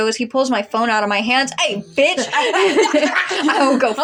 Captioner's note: laugh